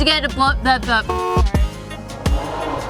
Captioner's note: horn honks; engine roaring in the distance